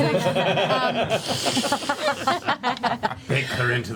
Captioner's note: laughter